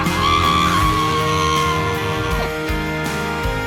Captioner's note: muffled screaming